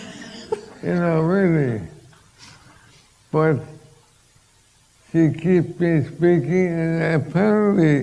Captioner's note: laughter